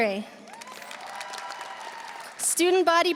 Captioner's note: audience applauding; audience cheering